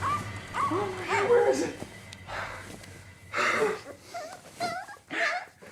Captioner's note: dog barking; gasping; dog whining